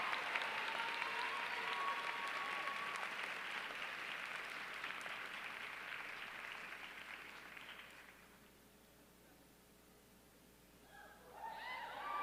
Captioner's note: applause